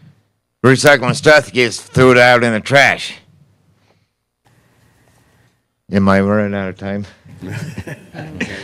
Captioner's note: laughter